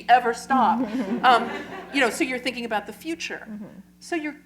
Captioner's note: laughter